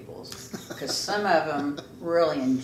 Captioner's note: laughs